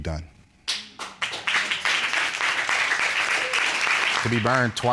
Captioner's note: applause